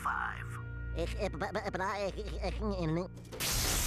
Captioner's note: stuttering